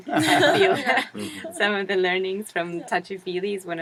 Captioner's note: laugh